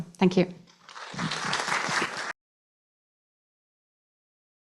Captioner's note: applause